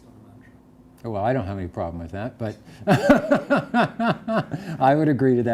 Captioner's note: laughs